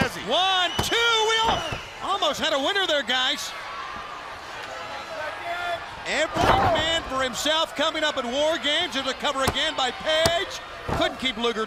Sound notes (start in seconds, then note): 5.4 crowd chatter